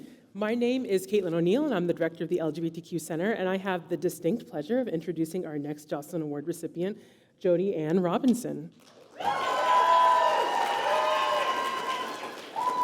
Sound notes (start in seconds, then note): 8.8 applause